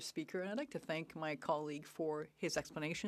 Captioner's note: speaking French